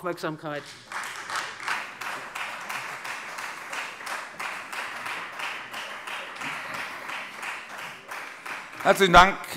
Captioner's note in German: Beifall Freie Demokraten